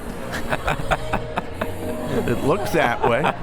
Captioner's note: urban music; both laughs